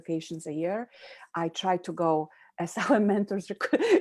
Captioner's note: laughs